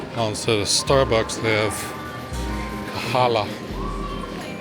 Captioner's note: children chattering